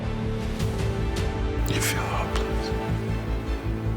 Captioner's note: voiceover